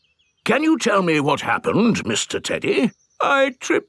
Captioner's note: in teddy's voice; in normal voice; in teddy's voice